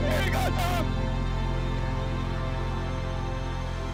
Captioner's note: celebratory cheering